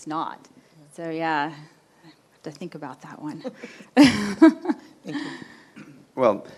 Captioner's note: chuckles